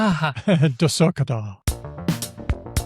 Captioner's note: chuckles